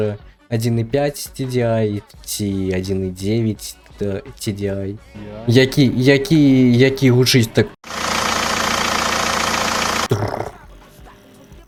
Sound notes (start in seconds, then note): 7.8 sound of 1.9 TDI from Volkswagen Passat B5